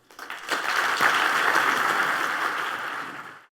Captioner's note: applause